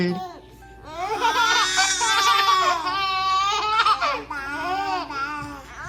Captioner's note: children laughing and babbling